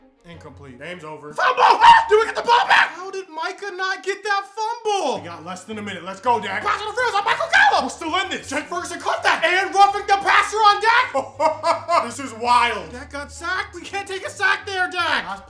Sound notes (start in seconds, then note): 10.6 laughs